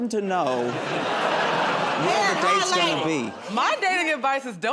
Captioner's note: laughter